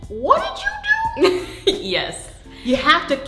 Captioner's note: laughs